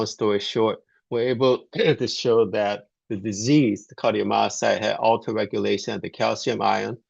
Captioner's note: clears throat